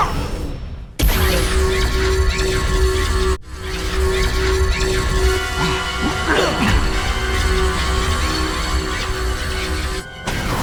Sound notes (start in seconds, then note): 0.7 power pulsing loudly